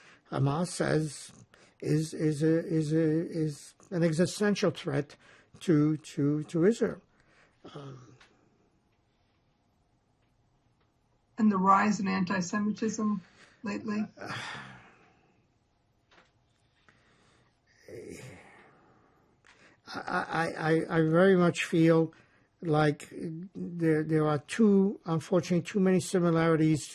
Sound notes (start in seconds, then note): 14.2 sighing